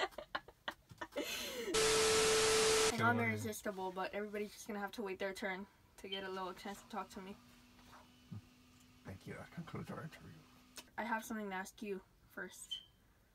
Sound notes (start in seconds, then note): 1.7 TV static